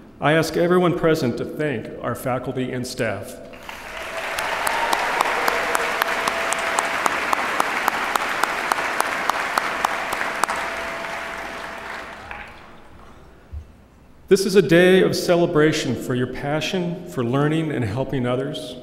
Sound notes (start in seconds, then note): 3.5 applause